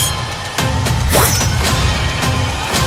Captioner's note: knife swipe